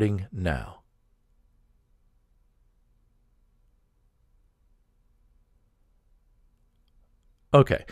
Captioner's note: pause